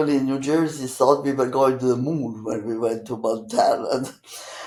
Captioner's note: laughing